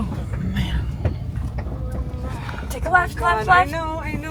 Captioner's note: raises her voice out of fear